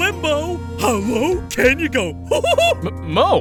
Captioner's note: chuckles